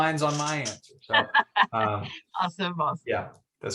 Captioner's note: laughs